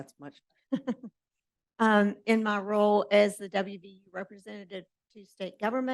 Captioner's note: chuckles